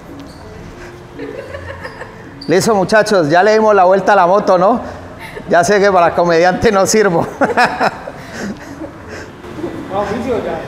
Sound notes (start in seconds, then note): 7.0 laughs